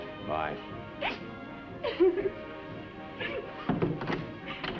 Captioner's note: sobbing